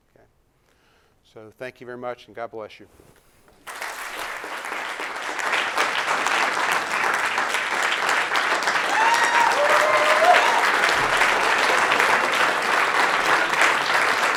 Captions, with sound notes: So, thank you very much and God bless you. [applause] [clapping] [ovation]